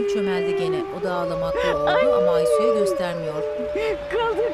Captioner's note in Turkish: Kurt uluma sesi